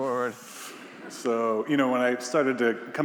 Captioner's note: attendees laughing